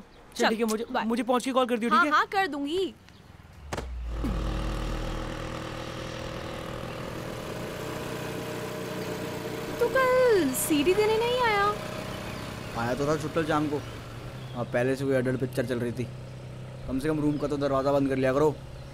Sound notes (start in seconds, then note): 4.1 scooter moving